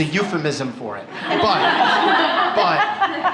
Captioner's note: laughter